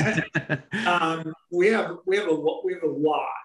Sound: both men laughing

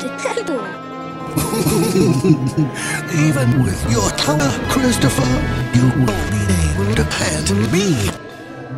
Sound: chuckles

